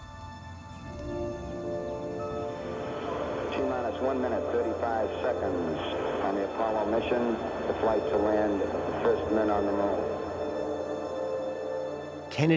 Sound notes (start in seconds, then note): 3.4 on speakers